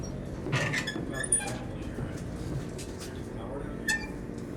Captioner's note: door creaks